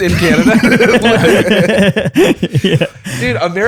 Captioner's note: laughter